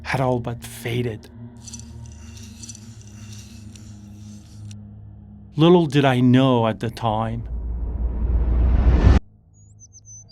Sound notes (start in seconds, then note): 1.6 beads clattering; 7.4 tense drumming music; 9.6 birds chirping; 10.1 tense music